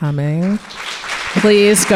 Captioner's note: audience applauding